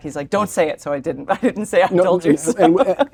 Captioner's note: laugh